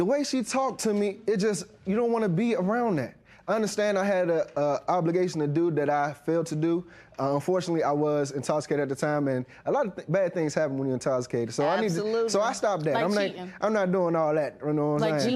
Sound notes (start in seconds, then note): none